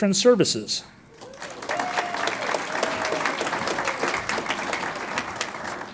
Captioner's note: audience cheers and applauds